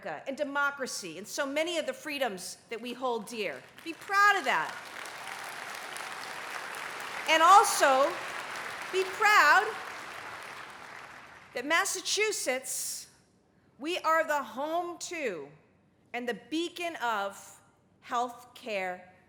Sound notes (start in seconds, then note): 4.7 cheering, applause